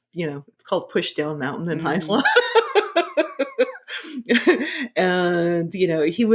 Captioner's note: laughing